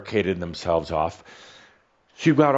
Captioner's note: none